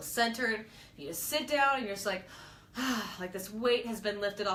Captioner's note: sigh